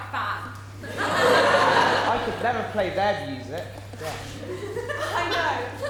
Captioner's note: audience laughter, ‘I could never play their music, gosh’ from band